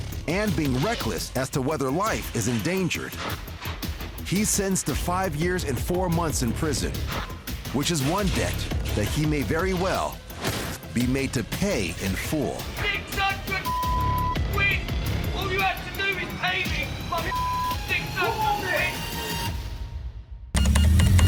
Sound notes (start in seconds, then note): 13.6 beep; 17.2 beep; 20.4 tense music ending